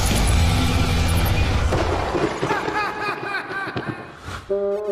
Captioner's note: laughs; lightning strikes